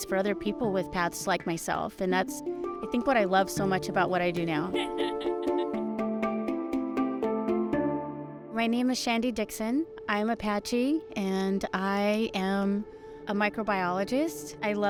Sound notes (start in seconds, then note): 4.7 laughs; 4.9 bright music